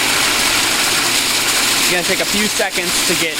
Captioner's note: water spraying